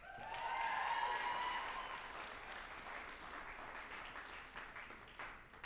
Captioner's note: group applauding and cheering